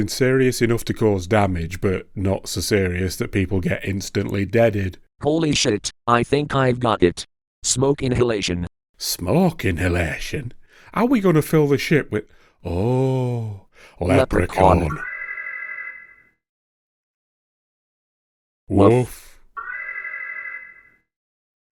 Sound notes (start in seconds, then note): 15.0 alarm; 19.6 alarm